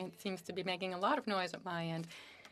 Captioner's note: speaking French